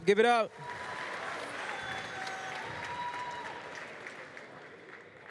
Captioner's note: cheers, applause